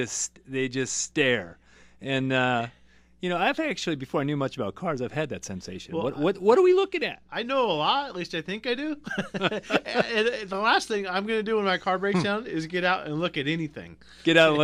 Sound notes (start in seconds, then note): 9.0 both laugh